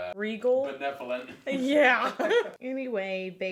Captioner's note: laughs